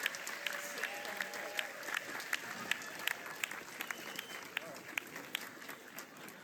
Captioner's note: applause